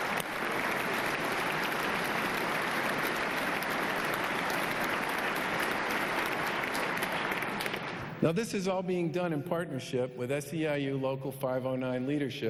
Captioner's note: applause